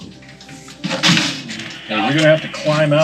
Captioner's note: wood crashes